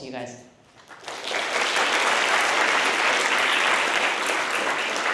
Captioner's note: applause